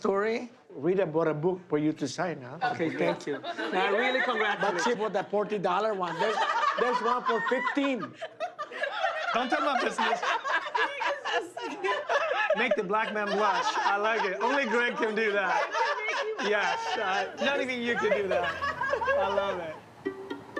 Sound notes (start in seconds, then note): 7.7 laughter; 10.3 laughter continues; 18.1 laughter